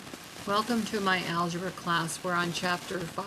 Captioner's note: voiceover